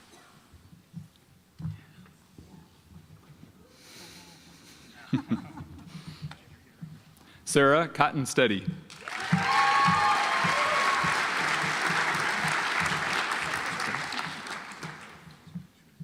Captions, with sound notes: Sarah Kottenstette (audience applauds)